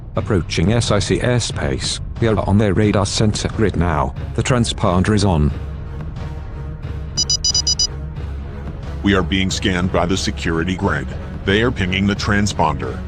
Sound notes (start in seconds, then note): 7.2 alert beeps